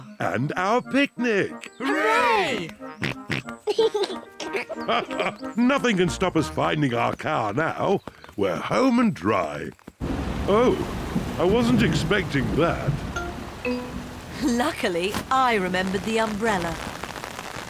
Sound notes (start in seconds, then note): 3.0 snorts and giggles; 6.1 laughs